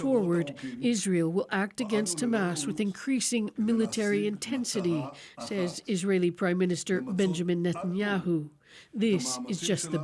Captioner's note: speaking alternate language